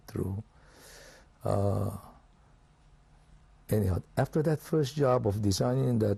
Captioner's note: pauses for 3 seconds